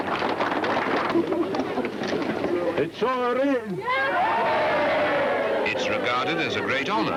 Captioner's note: cheers